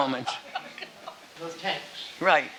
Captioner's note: laughing